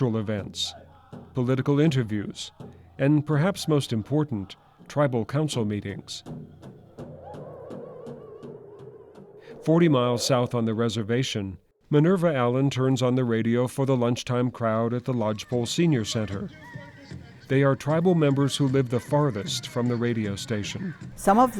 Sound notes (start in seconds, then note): 8.2 wind